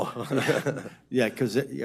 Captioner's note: laughs